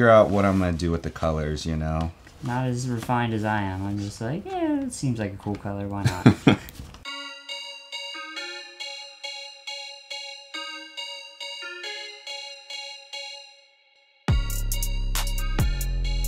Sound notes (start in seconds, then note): 6.0 chuckles; 7.0 upbeat music